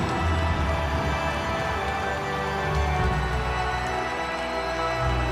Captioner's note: audience applauds and cheers; ominous music continues